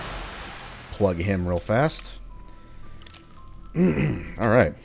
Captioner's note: clears throat